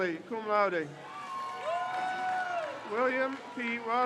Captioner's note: crowd cheers